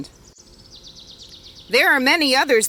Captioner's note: soft bird calls